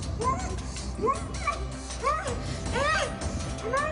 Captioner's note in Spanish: Gemidos